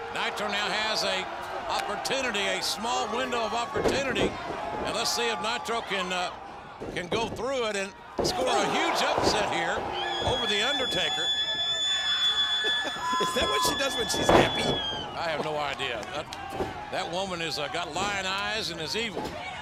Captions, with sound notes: Nitro now has a opportunity, a small window of opportunity, and let's see if Nitro can go through it, and score a huge upset here over The Undertaker. (Melina shrieks) (King laughs) Is that what she does when she's happy? I have no idea. That woman has got lying eyes and is evil.